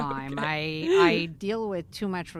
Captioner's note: laughs